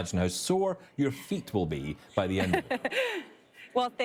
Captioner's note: laughing